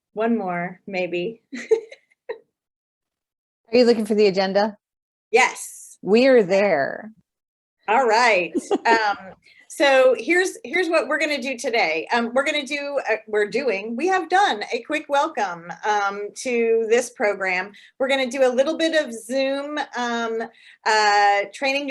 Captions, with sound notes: One more, maybe. (laughs) - Are you looking for the agenda? - Yes. - We are there. - All right, so here's what we're gonna do today. We're gonna do, we're doing, we have done a quick welcome to this program. We're gonna do a little bit of Zoom training